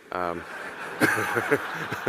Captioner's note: audience laughing; Elon laughing